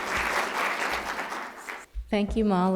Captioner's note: applause